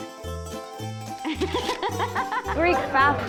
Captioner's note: sound: camera shutter and laughter